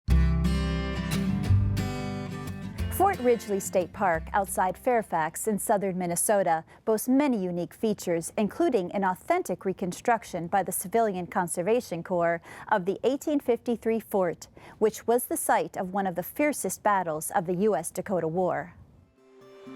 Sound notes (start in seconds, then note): 0.0 acoustic music; 3.0 voiceover; 19.0 acoustic music